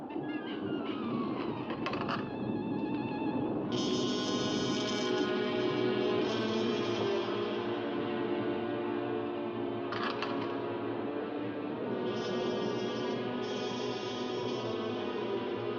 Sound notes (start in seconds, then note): 1.8 secret door creaks open; 3.7 suspenseful music; 9.9 secret door creaks shut; 10.9 suspenseful music